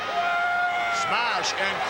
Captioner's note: Smash yelling